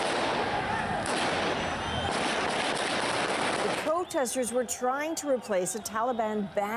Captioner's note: gunshots